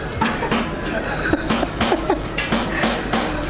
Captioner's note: laughter